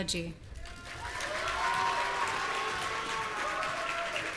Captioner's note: audience cheering